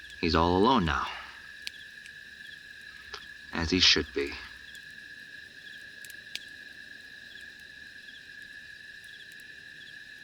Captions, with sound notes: He’s all alone now... as he should be. (Crickets Chirping Continues)